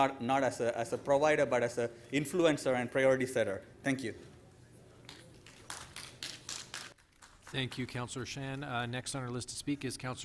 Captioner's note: applause